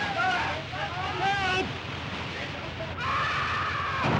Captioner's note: water splashing; man screams; sounds of chaos & destruction